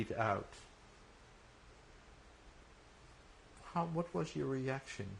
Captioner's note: pauses for 3 seconds